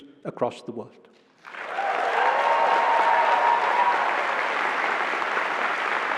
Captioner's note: cheering